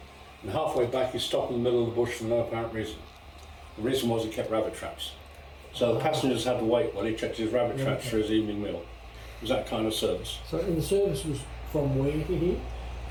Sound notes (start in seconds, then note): none